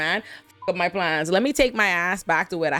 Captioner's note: beep